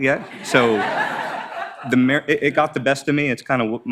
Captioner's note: audience laughs